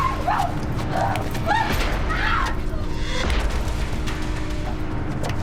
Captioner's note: yelling, screaming